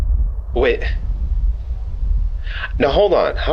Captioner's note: wind blowing